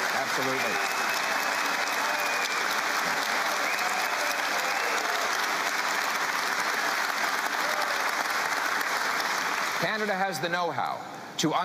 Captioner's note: cheering and Applause